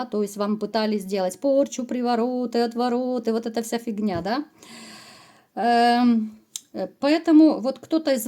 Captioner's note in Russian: тяжело вздыхает